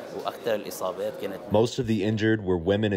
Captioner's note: through translator